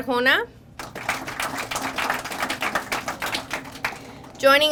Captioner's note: crowd applauding